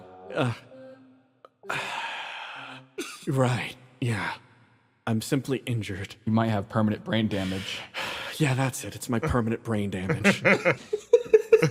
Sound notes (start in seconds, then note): 1.6 sigh; 10.0 laughs